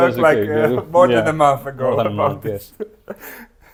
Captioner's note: laughs